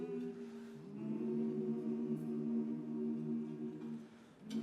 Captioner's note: humming